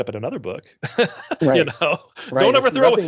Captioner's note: laughing